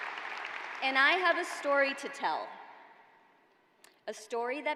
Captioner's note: cheers and applause